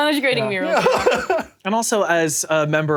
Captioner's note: laughs